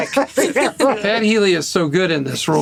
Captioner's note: laughter